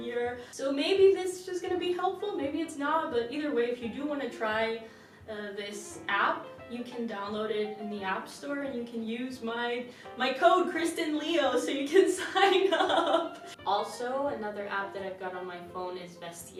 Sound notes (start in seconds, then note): 12.6 chuckles